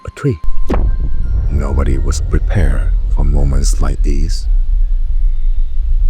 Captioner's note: sound shakes as a nuke goes off in the background